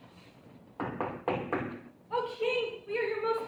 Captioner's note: knocking